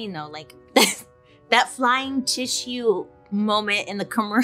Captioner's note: laughs